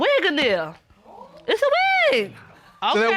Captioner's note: woman exclaiming